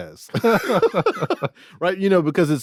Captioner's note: everyone laughing